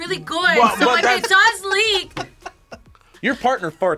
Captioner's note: React laughs